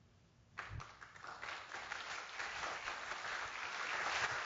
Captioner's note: audience applauds